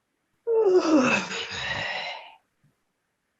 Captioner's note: woman sighs